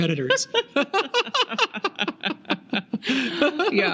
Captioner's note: laughing